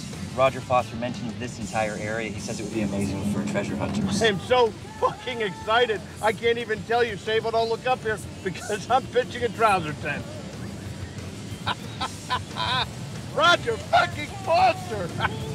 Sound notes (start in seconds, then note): 11.5 laughing